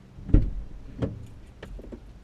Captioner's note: door opens